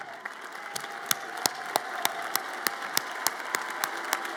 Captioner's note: audience applauds